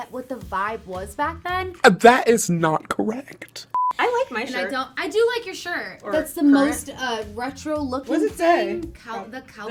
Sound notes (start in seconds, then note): 3.7 beep